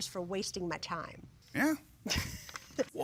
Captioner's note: chuckles